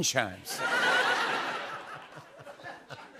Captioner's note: laughter